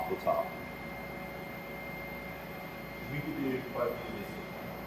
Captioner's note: machine whirring